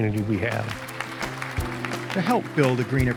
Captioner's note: people clapping